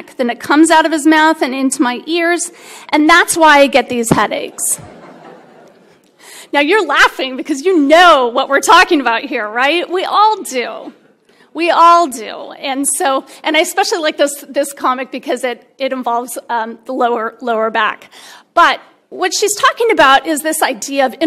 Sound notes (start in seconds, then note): 4.6 laughter